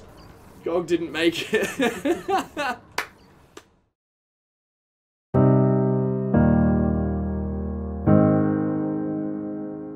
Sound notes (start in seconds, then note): 1.5 laughs; 2.9 claps